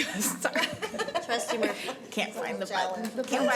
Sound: laughter

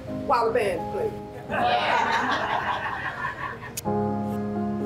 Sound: attendees laughing

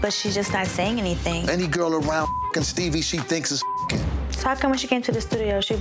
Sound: beep

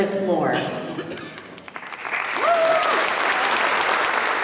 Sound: applause

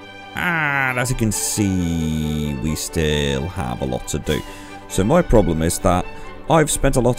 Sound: talking increasingly fast

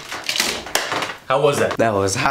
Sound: claps

